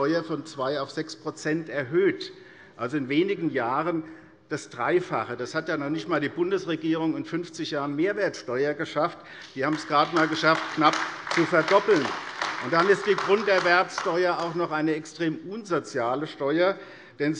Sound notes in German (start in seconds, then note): 9.3 Beifall AfD